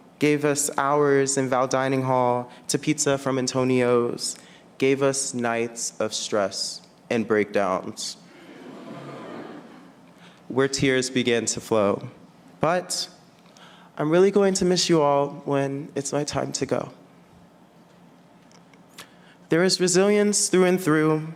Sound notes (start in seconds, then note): 8.4 audience laughing